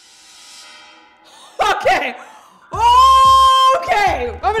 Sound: laughing

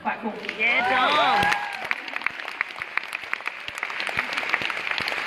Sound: applause and cheering

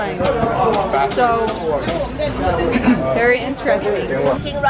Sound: clears throat

